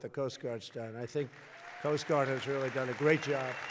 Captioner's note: applause